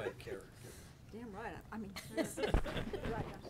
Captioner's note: people laughing